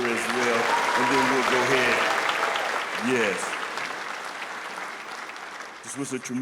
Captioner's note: applause